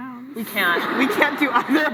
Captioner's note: laughs